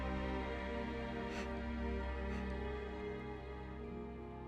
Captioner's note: gasps